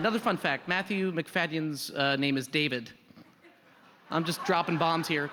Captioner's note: laughter